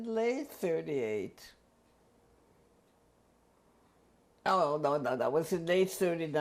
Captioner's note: pauses for 3 seconds